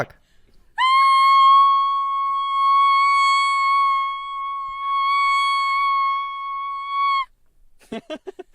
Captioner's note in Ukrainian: кричить